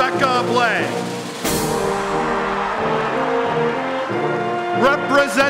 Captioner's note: applause and Cheering